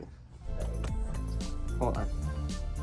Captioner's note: new ringtone rings